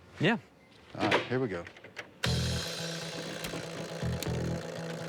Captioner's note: rattling